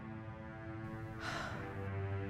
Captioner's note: big sigh